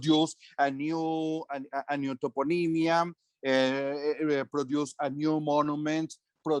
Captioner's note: speaking foreign language